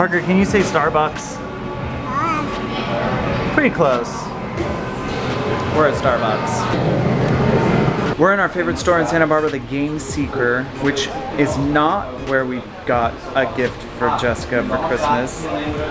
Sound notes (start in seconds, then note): 2.0 babbles